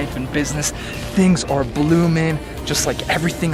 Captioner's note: birds chirping